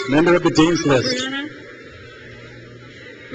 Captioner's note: crowd cheers